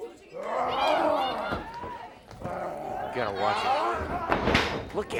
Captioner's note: crowd chatter